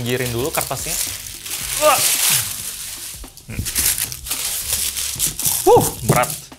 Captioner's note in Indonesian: suara kresek